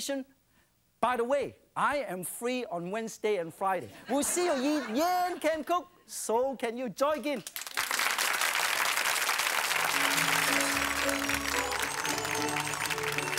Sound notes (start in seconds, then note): 7.4 clapping; 9.6 joyful music